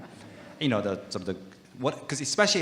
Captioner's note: audience laughing